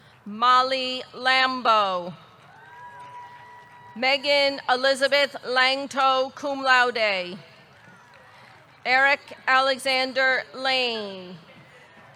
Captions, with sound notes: Molly Lambo. (audience cheering) (audience clapping) Meaghan Elizabeth Lanctot, cum laude. Eric Alexander Lane.